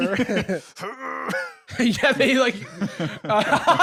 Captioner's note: straining; laughs